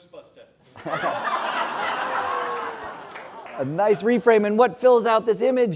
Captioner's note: laugh